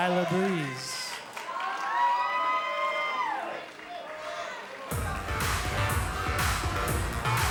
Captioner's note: cheers & applause